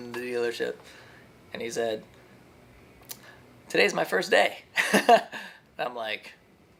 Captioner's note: laughs